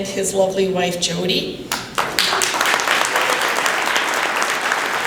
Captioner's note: applause